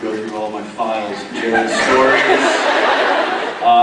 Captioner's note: laughs